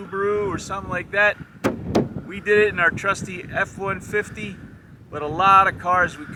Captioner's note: hood slaps